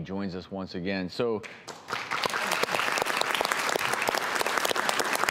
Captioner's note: audience applauds